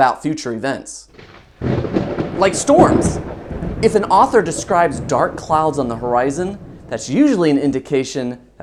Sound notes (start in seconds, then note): 1.1 thunder sound effect